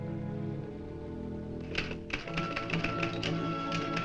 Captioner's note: typing